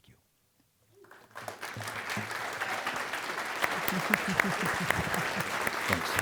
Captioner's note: applause